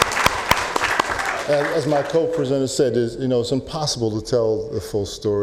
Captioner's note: applause